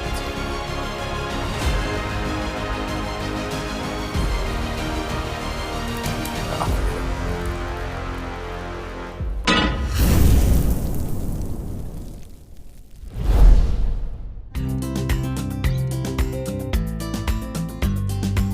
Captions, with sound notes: - Aw, forget it. (pan clanks) (fire whooshes) (joyful instrumental music)